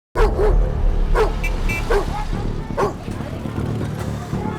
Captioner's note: dog barks; horn beeps; dramatic music